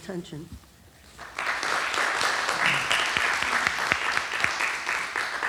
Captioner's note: applause